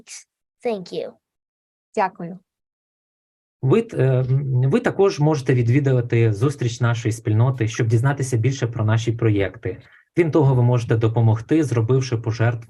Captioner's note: foreign Language Spoken